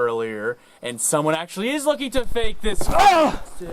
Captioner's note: stoke grunts